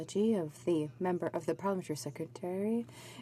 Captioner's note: speaking in french